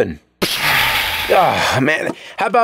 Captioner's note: pshaaa!